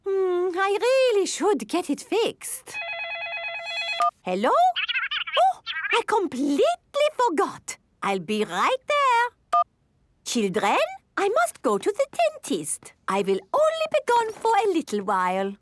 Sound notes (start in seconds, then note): 2.7 phone ringing